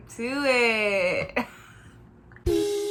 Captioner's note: silent laughter